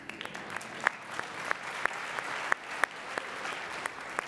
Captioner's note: audience applauding